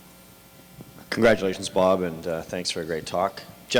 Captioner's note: voiceover